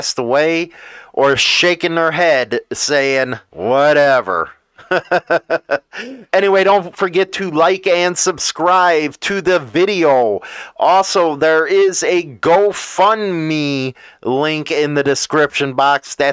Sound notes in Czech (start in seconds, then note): 4.7 Smích